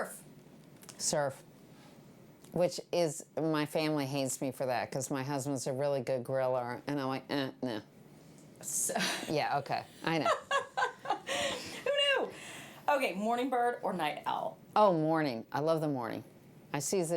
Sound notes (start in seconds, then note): 10.2 laughing